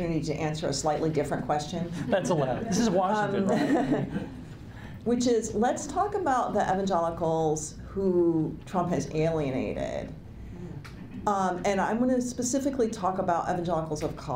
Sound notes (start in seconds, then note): 3.3 laughs